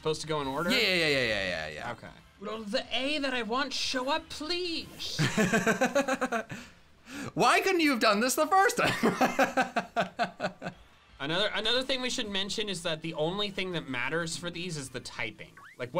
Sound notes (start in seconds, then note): 5.2 laughs